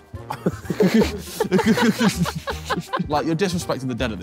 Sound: all laughing

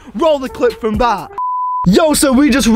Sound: beep

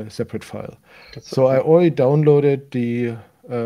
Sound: faintly speaks

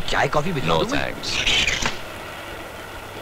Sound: door creaks

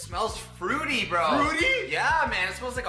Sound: excited

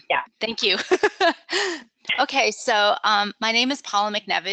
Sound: laughs

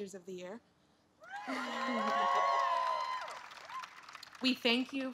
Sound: applause

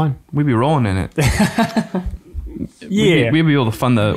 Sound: chuckles

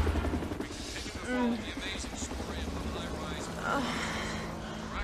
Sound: woman moans

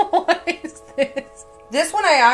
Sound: laughing

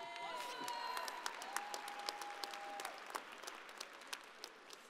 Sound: audience applauding

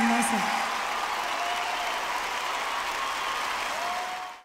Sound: Público aplaude emocionado

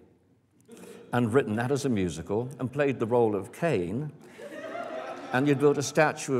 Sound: laughter

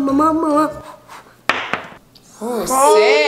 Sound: blowing; thud

